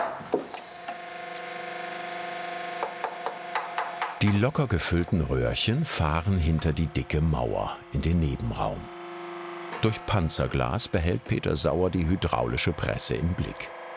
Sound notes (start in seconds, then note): 0.8 machine whirring